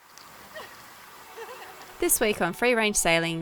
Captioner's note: laughing